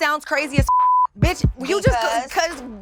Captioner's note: beep